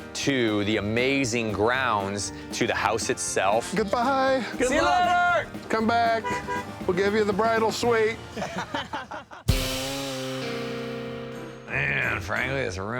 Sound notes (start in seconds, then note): 8.3 laughing